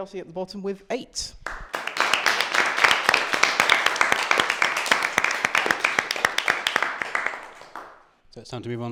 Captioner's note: applause